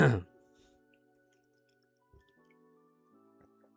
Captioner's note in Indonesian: berdehem